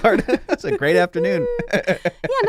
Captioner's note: laughs